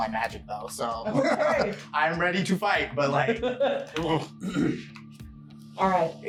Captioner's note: laughing